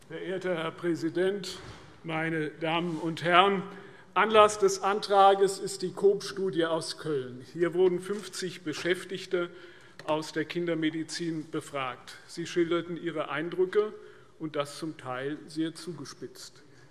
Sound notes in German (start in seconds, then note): none